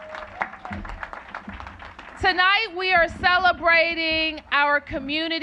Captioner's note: applause